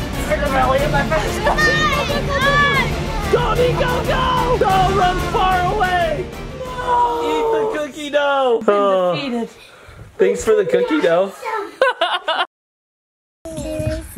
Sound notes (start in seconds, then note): 1.8 kids shouting; 11.7 laughs